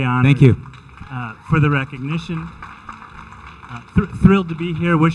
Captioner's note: audience applauding